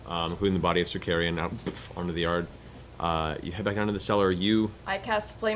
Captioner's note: boof